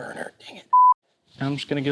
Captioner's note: video beeps